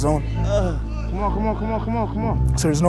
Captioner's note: grunting